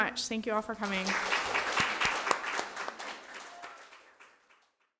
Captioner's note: audience applauding